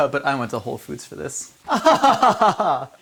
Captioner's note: laughs